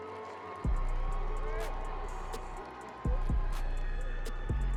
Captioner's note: audience applauding